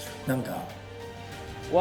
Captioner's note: speaking foreign language